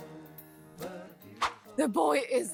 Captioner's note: swish!